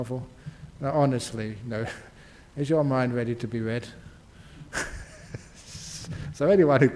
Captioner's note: laughs